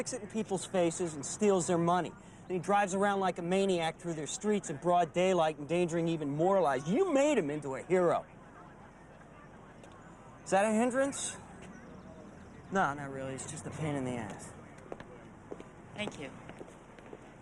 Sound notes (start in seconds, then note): 9.1 police dispatcher chattering